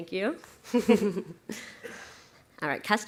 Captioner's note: laughs